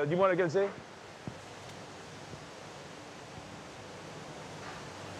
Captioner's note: speaking in foreign language